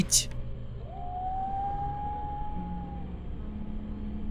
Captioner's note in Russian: Ния воет